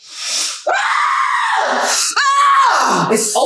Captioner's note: Charmaine yelling